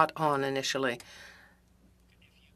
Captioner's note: speaking French